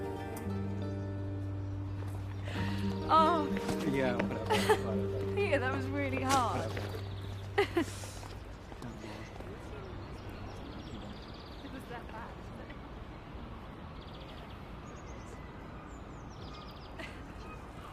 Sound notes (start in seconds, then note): 7.4 laughs; 10.0 birds chirping